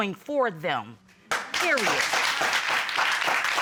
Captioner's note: applause